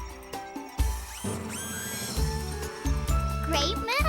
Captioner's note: becky whirring